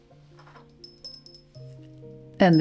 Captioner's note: rustle; bell tinkling softly